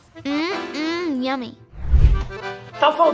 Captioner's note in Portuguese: Efeito sonoro de transição